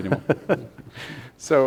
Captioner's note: laughing